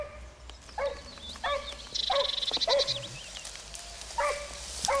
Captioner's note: dog barking